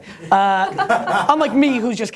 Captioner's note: laughter